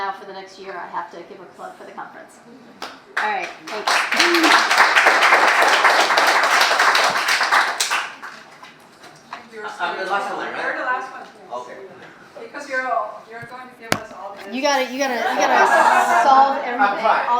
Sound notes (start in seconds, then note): 3.7 audience applause